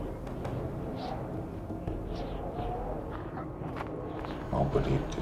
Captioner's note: wind blowing